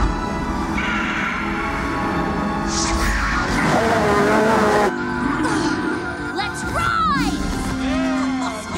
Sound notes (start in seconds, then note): 0.7 Charlie screeches; 3.9 Razzle and Dazzle roar